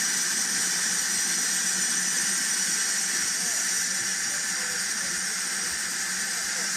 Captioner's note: train releases steam